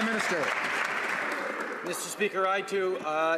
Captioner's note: some Applause